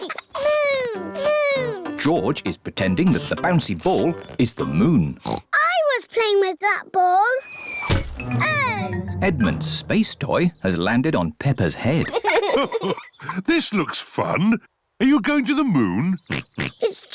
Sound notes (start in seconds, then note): 5.2 oinks; 7.8 thudding; 11.9 chuckles; 16.2 oinks